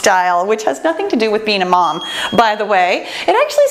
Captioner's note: bell chimes